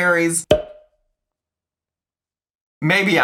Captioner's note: slide pops